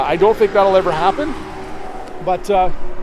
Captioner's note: vehicle roars